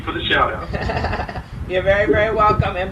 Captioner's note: laughs